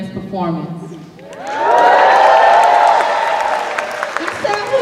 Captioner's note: cheers